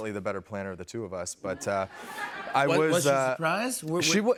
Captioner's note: laughter